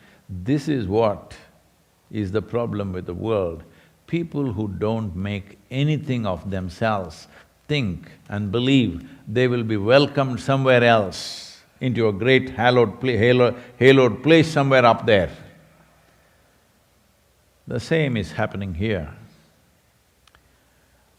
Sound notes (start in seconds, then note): none